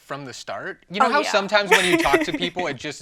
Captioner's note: chuckling